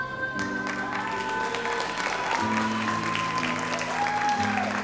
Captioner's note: audience applauds